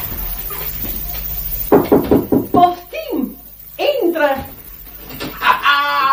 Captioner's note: knocks on the door